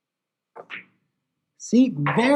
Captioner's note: ball clacks